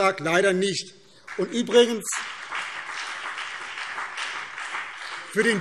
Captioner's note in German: Beifall BÜNDNIS 90/DIE GRÜNEN und CDU